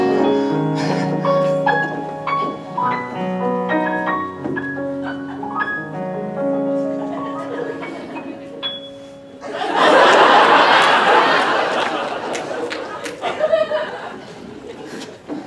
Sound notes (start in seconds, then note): 0.0 piano riff; 9.4 audience laughter